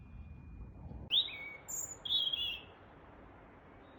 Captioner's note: bird song